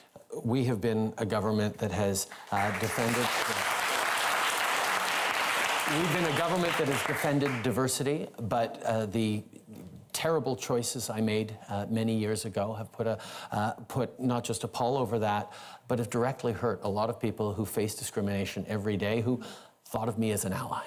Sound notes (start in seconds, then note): 8.7 applause